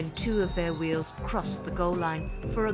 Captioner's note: cheering